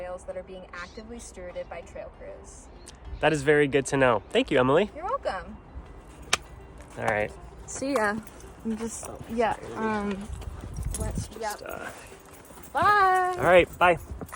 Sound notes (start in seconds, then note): 6.3 slaps